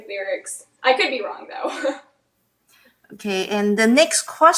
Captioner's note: laughs